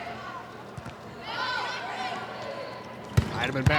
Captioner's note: ball thumping; players shouting indistinctly